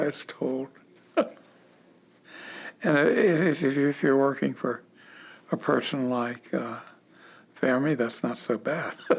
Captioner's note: chuckle